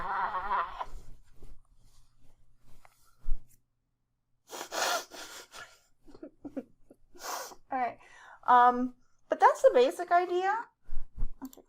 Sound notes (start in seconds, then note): 4.2 chuckles